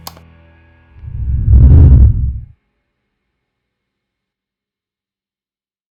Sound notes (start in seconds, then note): 1.0 air whooshing